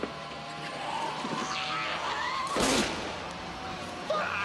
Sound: yelling; snarling

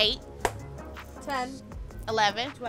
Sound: claps

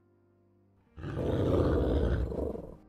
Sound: packmates growling

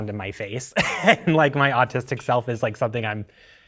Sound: chuckling

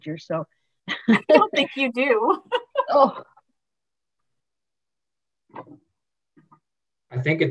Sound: laughs

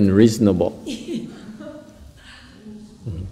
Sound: laughter

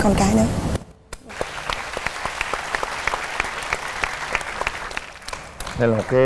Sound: applause

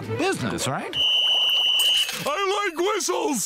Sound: whistle blowing

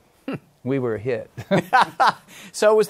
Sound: laughs

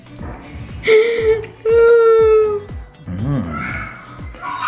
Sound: laughing

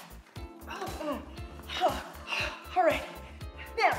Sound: gasping

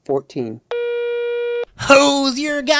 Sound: phone tone

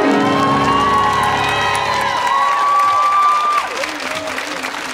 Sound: audience cheering

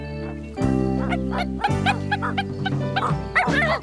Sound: barking

